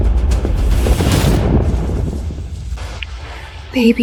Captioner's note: thunder crashes